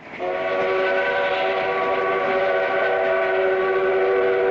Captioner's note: train whistle